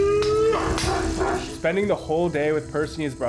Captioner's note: monkey howls